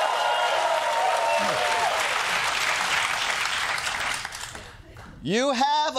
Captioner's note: cheering